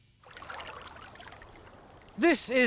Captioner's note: water babbles